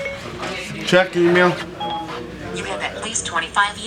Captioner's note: phone chimes; phone chimes